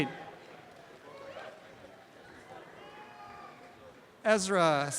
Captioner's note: background audience chatter; applause and cheering